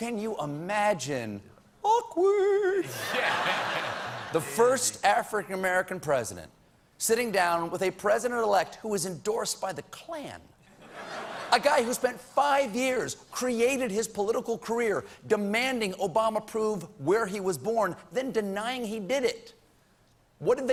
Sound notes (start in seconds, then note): 5.5 laughter